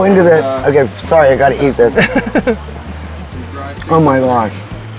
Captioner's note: laughing